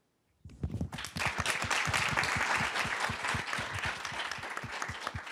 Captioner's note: applause